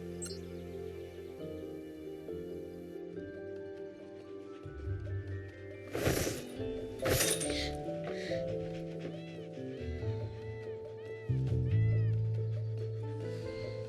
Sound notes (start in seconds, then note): 5.9 curtains whoosh; 7.2 gasps